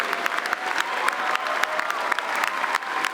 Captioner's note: cheering